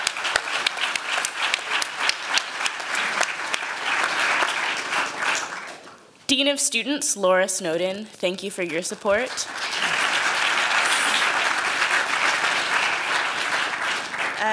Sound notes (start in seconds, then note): 0.0 applause; 8.6 applause